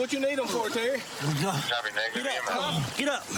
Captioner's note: panting